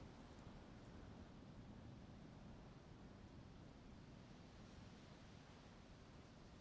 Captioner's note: none